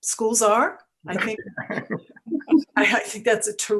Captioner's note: laughing